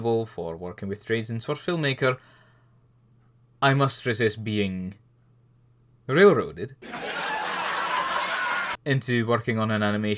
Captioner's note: laugh track